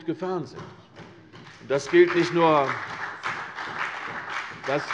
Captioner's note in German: Beifall CDU und BÜNDNIS 90/DIE GRÜNEN